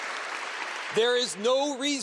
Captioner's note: applause